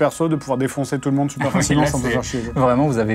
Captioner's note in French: rires